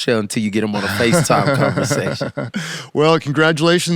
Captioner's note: laughs